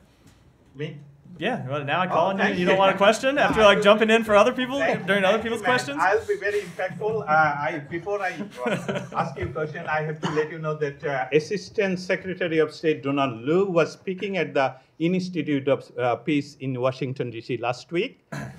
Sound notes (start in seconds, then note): 6.2 laughter